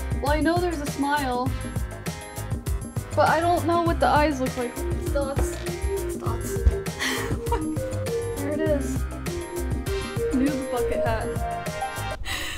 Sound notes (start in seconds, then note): 6.9 chuckles